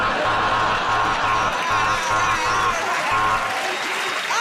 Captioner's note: buzzer